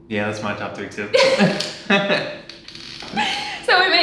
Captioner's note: both laughing